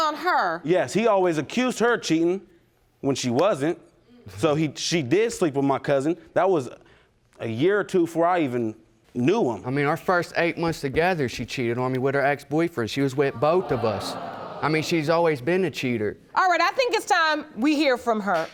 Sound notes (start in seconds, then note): 13.3 audience groans